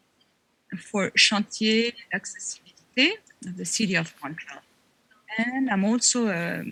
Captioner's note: speaking French